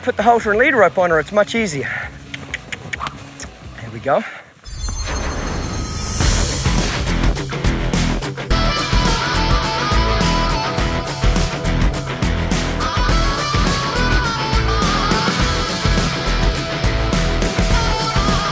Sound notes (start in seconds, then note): 1.9 mouth clicking; 4.6 shimmering; 6.5 upbeat rock music